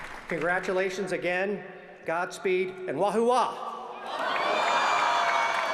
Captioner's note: applause